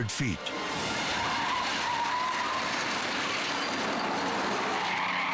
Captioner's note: tires skidding